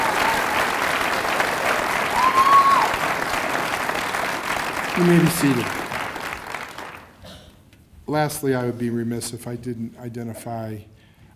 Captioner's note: cheers and applause